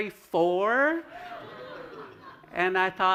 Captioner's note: laughter